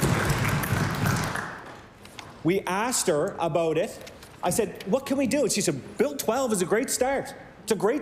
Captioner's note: cheering & Applause